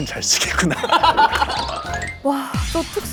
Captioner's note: laughing